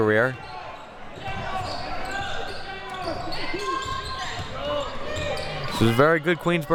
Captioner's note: audience chattering and yelling